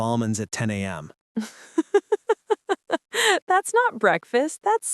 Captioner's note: laughs